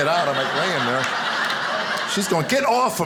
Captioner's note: audience laughing